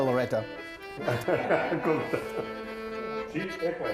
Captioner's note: all laughing; playful accordion music